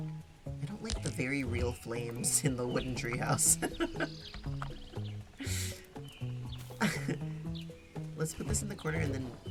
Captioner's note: laughs